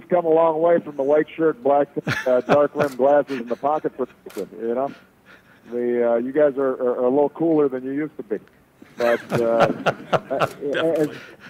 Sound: laughter

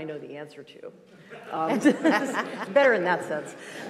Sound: group laughing

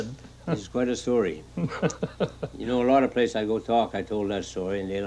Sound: man laughing

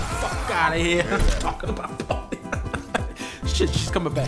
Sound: chuckles

